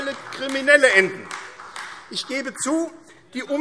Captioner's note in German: Vereinzelter Beifall AfD